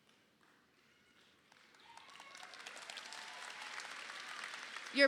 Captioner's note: crowd claps